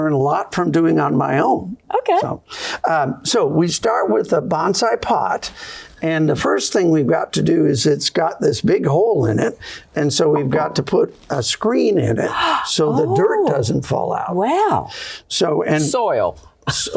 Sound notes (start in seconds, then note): 14.2 laughter